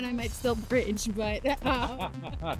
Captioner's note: laughter